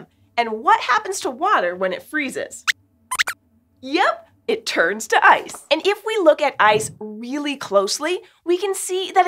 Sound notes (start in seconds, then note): 3.1 squeaks squeaks